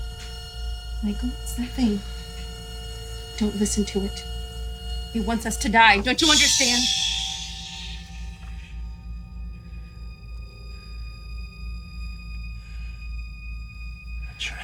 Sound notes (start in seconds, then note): 9.3 Michael hushes